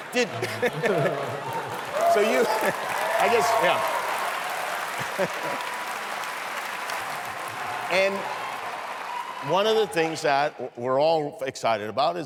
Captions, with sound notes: Did-- so you-- I guess-- yeah. [APLAUSE] And one of the things that we're all excited about